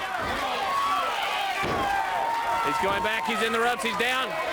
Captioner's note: crowd cheering